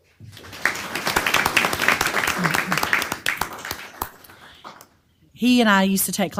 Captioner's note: applause